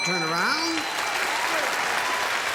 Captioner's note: ding